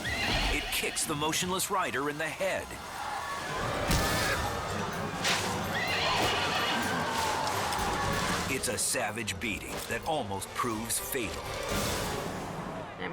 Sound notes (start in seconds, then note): 3.8 kicks thumps; 5.6 horse neighs